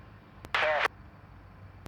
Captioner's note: static